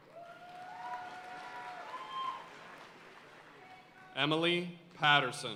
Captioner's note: audience cheering and applauding